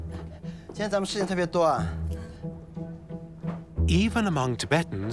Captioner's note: in Tibetan